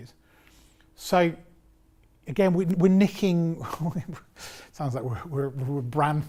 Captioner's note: laughs